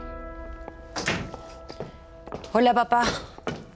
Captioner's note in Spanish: Puerta se cierra